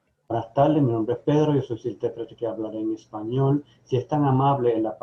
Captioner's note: speaks in foreign language